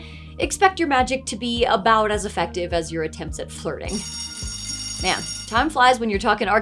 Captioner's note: school Bell Rings